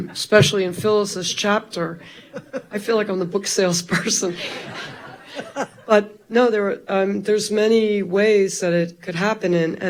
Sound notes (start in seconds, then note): 2.1 laughing; 4.0 all laughing